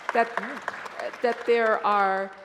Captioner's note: applause